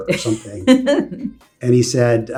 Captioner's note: laughs